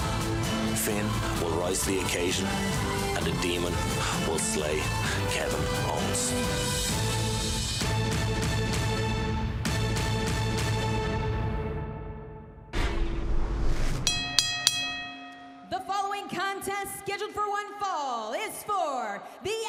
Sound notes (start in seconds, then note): 14.0 bell ringing